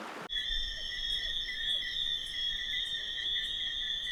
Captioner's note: insects chirping